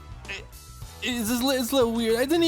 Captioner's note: child noises; mumbles